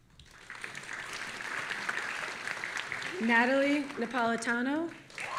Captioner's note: audience applauding